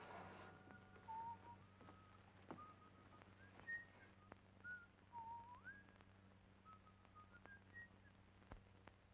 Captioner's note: whistles